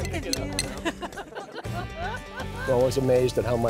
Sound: laughter

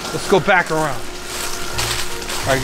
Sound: leaves rattling

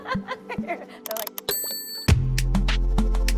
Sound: laughs; bell pings

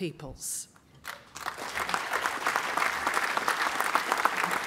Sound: applause

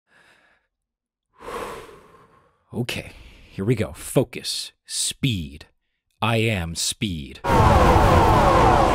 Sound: inhale; sigh; Spies Screaming

